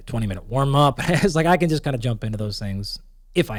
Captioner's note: laughs